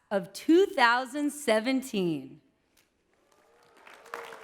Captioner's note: clapping